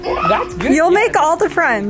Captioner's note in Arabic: تصرخ بغضب